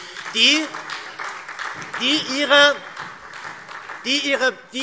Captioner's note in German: Beifall SPD